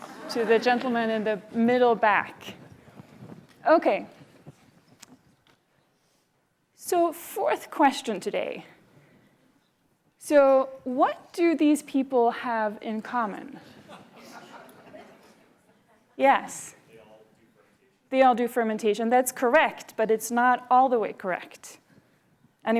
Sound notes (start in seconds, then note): 13.7 laughter